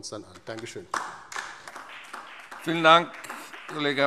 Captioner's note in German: Beifall DIE LINKE